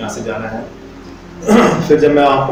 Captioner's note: clear's throat